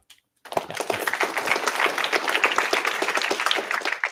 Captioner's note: applause